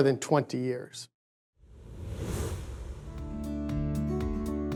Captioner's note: air whooshing; light music